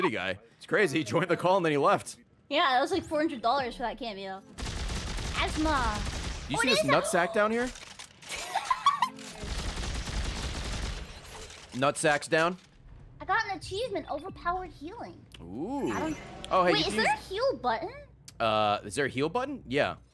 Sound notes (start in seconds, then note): 8.2 laughs